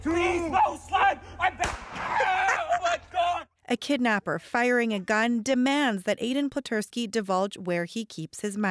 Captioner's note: shots